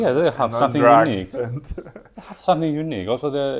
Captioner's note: laughs